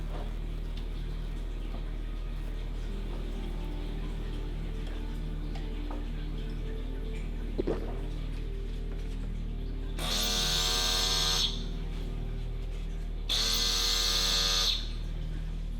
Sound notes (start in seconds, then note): 9.9 buzzing; 13.2 buzzing